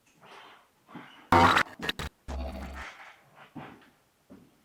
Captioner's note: static crackling